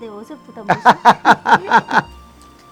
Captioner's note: both laughing